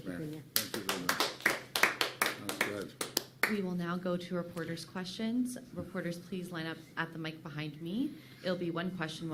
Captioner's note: applause